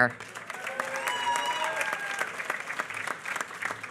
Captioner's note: applause